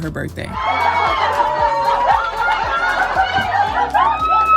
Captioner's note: crowd screaming